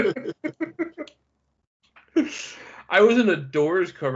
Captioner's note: laughing